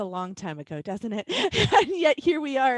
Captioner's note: laughs